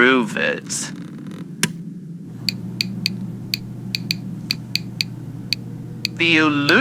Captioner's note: Alastor snaps on ululometer, which clicks quickly fx